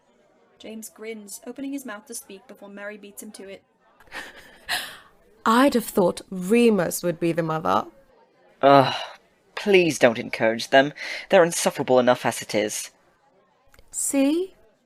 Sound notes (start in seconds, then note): 4.0 Mary laughs